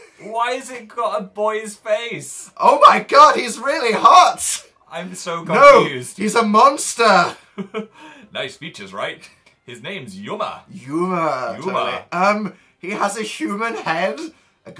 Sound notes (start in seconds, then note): 2.5 reads enthusiastically